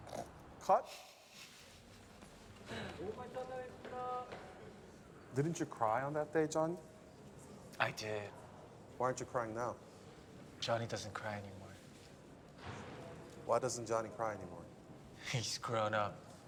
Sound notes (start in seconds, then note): 1.8 chuckles; 3.3 crew chatter